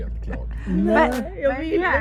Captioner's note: laughter